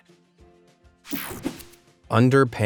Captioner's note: light, upbeat music; graphics whoosh